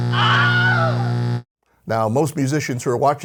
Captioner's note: scream